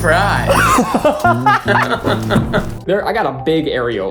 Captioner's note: both laughing